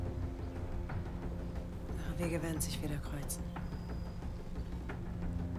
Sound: speaking foreign language

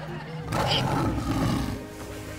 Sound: roaring

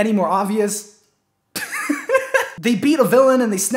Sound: laughs

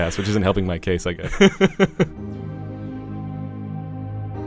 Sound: voiceover

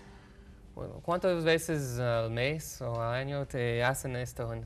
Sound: speaks in Spanish

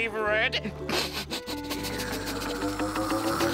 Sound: smelling

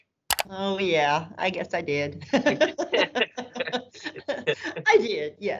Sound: laughter

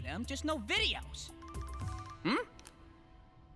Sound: phone ringing

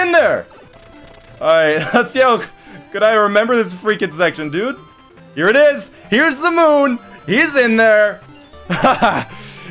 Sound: laughs

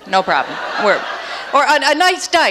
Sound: audience laughs

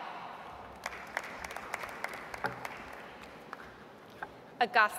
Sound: audience applauds

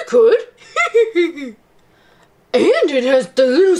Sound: laughs

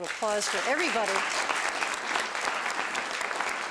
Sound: applause

